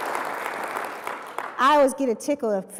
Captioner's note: applause